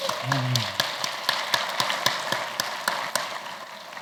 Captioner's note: applause